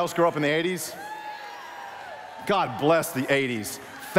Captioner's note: cheering